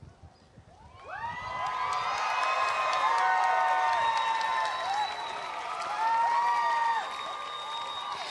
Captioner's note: shouts and applause